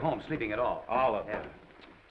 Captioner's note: tsking